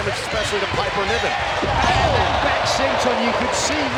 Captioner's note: crowd groans